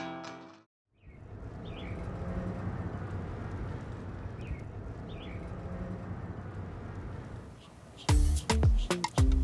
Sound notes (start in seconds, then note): 0.5 upbeat music; 4.8 bird tweeting, whirling sound; 7.5 bird tweeting, whirling sound